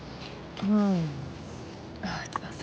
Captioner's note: sighs